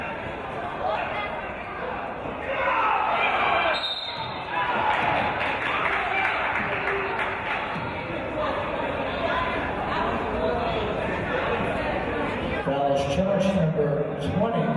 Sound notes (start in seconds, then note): 3.6 referee's whistle